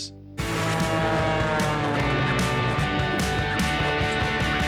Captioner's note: plane soaring